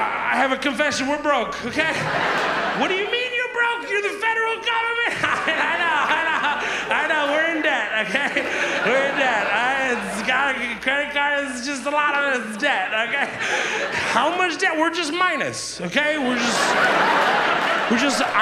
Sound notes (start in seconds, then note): 5.7 laughs; 6.7 audience laughs; 8.6 audience laughs; 13.3 audience laughs; 16.0 audience laughs